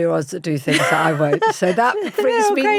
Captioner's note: laughs